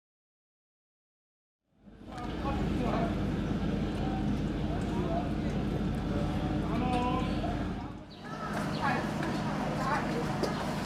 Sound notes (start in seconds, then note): 1.3 engine running; 2.3 background chatter